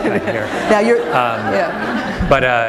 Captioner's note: laughter